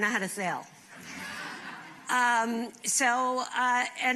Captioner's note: laughter